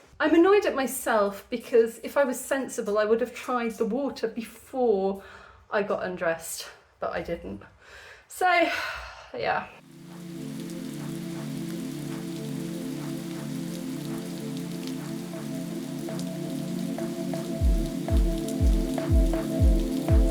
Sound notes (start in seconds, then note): 12.0 sigh